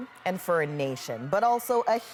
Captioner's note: cheers and applause